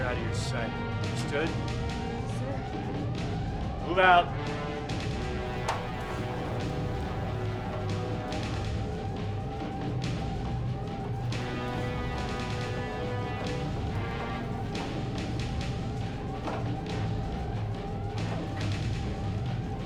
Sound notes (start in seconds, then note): 5.8 alarm blaring; 8.8 tense orchestral music